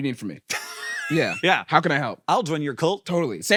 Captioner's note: laughs